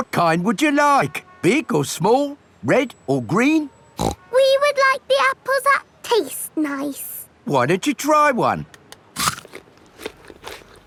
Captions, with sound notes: What kind would you like? Big or small? Red or green? (SNORTS) We would like the apples that taste nice. Why don't you try one? (CRUNCHES)